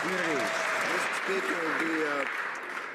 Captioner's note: some Applause